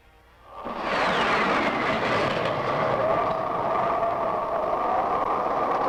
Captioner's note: whistling and wind rushing